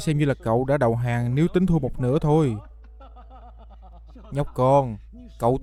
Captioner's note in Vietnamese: tiếng cười